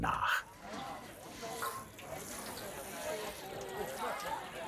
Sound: bubble of voices in the background

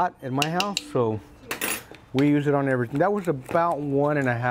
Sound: spoon clangs

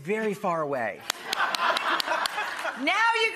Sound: audience laughing

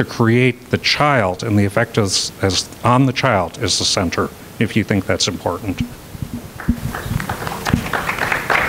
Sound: applause

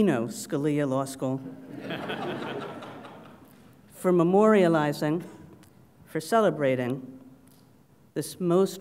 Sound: laugh

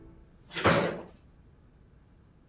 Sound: door opens

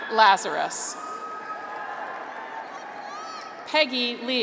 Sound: graduates cheer

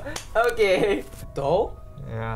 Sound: laughs; claps; guffaws

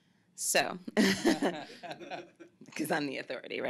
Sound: laughs

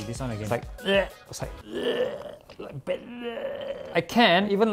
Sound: l4d boomer vomit sound; retches

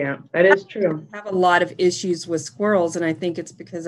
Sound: mic cuts out

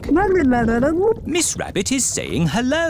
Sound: gurgling

